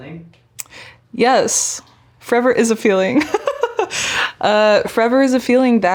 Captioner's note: laughing